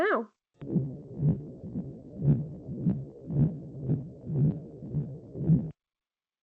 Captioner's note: rhythmic thudding noise